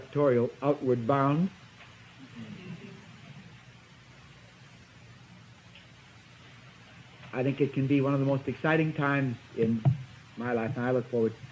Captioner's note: laughter from audience